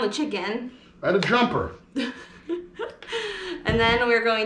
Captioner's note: giggling